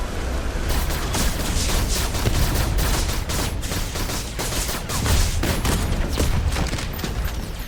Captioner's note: lasers blasting; guns firing